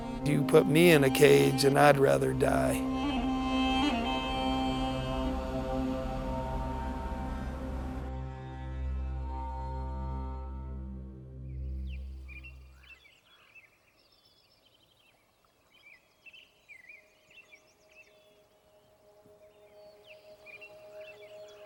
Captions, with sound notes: You put me in a cage, and I'd rather die. (birds chirping)